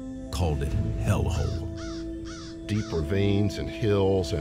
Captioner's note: crow cawing